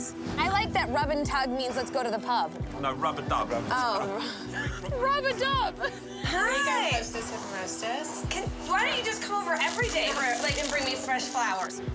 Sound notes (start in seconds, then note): 4.1 laughs